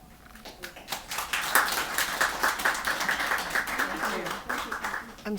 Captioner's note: applause